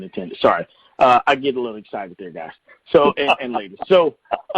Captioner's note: chuckling